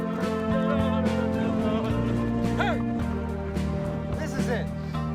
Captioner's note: chanting